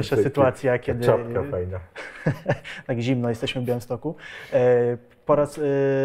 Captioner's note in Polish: śmiech